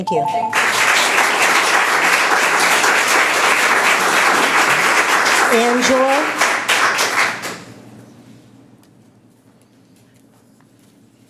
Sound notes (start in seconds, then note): 3.5 applauding